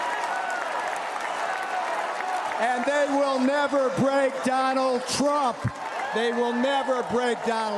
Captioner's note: cheers and applause